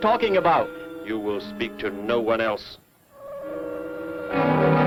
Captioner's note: gun humming